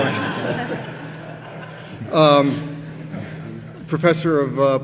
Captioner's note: audience laughing